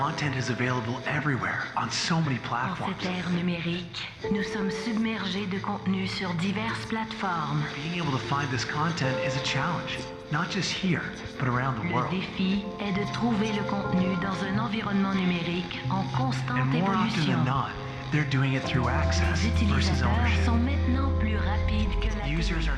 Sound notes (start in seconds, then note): 7.8 voiceover; 17.4 voiceover